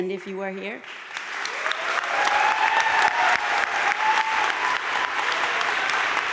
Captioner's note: audience cheering and applauding